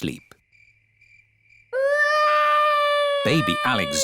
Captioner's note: baby alexander crying